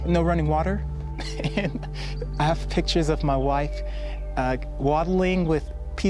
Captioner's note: laughs